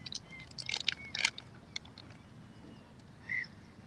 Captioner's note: birds chirping